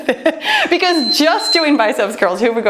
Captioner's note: timer beeps